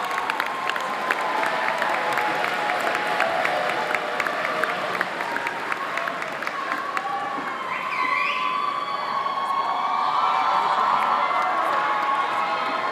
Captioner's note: applause